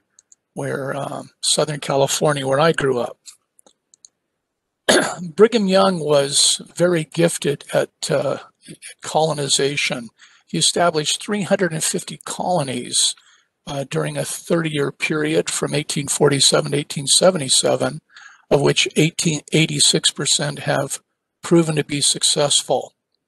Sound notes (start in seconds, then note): 4.8 cough